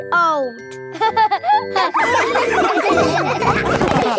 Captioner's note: all laughing